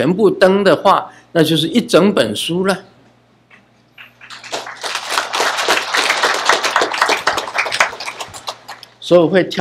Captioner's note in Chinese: 眾鼓掌